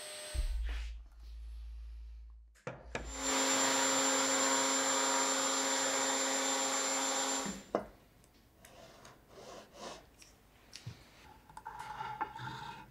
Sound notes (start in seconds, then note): 3.0 saw zings